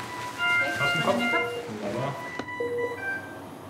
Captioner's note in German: Diverse Piepstöne